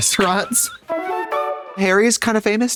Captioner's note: whimsical chime